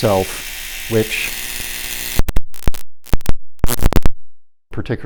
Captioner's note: electrical zapping